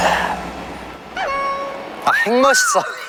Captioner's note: sparkling